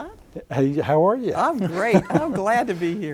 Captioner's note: laughs